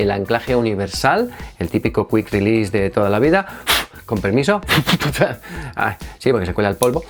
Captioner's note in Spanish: sopla